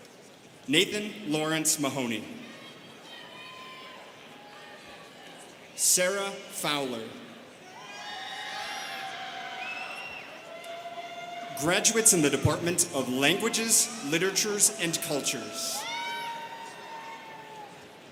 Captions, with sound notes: Nathan Lawrence Mahoney. Sarah Fowler. (students cheering) Graduates in the Department of Languages, Literatures and Cultures.